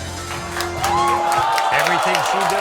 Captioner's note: audience cheers